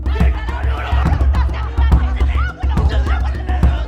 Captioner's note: performers shout and argue in different languages